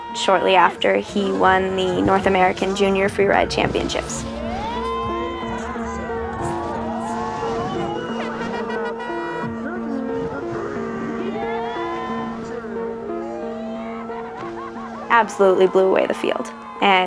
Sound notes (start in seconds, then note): 5.0 crowd cheering; 8.6 horn blares